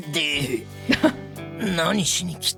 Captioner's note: chuckles